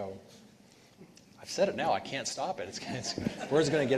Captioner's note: chuckles